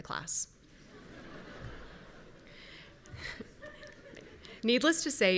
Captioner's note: audience members laughing